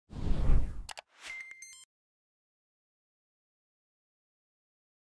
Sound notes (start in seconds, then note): 0.8 mouse clicking; 1.2 computer chiming